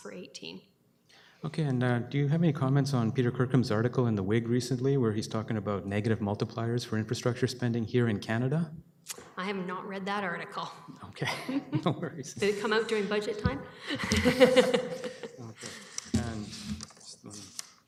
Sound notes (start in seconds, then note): 11.2 chuckles; 13.8 chuckling